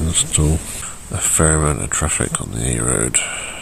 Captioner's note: sigh